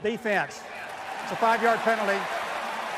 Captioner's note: cheering